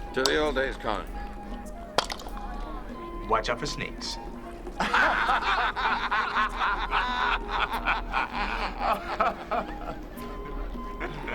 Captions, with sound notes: - To the old days, Conan. (wooden clank) - Watch out for snakes. (laughing)